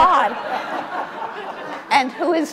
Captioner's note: audience laughs